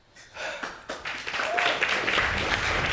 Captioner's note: audience applauding